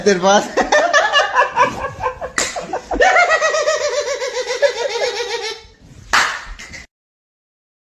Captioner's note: Laughter